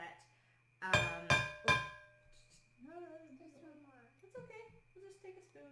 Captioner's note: bowl clinks